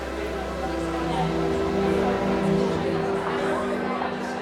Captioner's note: visitors chatting